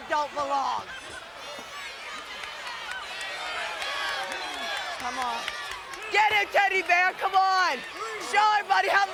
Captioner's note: applause